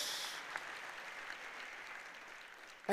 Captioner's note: applause